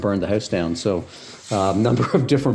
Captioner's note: chuckling